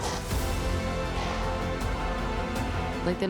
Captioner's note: chokes, splutters; Krem chokes